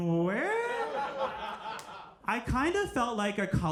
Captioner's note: audience laughing